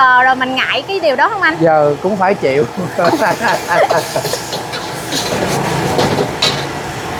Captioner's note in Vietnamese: tiếng cười